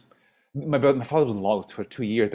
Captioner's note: stammers